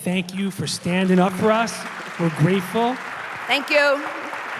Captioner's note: applause